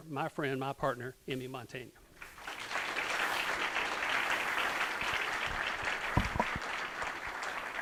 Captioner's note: applause